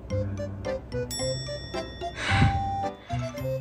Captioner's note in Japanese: ため息